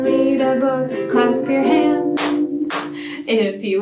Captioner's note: hands clapping